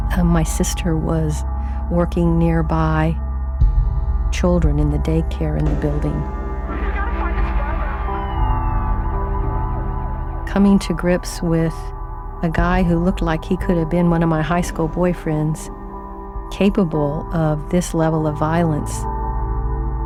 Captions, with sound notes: And my sister was working nearby, children in the daycare in the building. (victims shouting) (police sirens howling) Coming to grips with a guy who looked like he could have been one of my high school boyfriends capable of this level of violence.